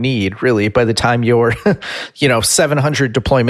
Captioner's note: giggles